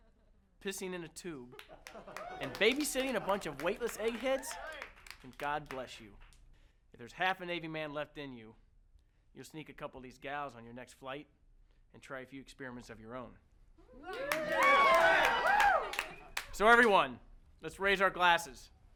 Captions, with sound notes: pissing in a tube, and babysitting a bunch of weightless egg heads, then God bless you. If there's half a Navy man left in you, you'll sneak a couple of these gals on your next flight and try a few experiments of your own. (all cheering) So everyone, let's raise our glasses